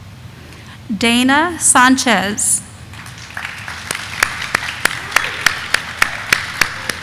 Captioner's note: audience applauding